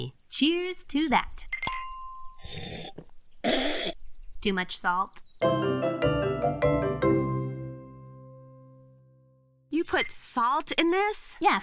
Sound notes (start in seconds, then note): 1.6 clink; 3.1 sputters